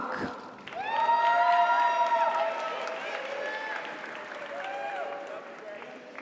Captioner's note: audience applauds; audience cheers